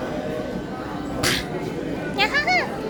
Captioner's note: popping sound?